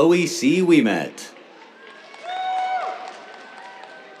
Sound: cheers, applause

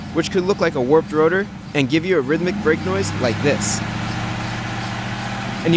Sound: engine noise - rhythmic rubbing sound

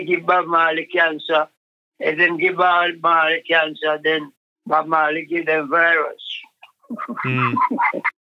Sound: laughs

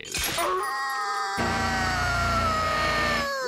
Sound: howling

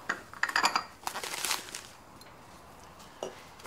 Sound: glasses clinking

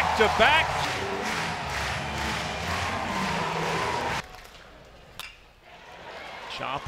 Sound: cheers

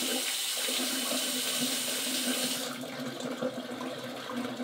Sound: water gurgling

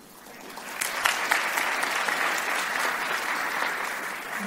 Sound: crowd applauds

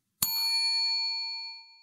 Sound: bell ringing

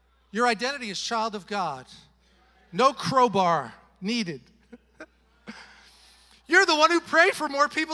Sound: chuckles

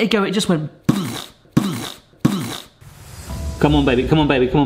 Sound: imitates bombs exploding

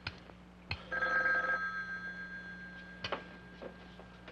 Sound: telephone ringing

